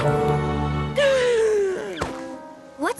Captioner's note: romantic theme; huge gasp